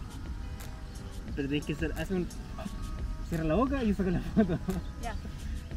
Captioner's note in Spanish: exhala